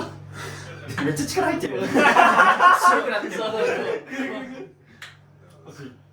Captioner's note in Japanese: 笑い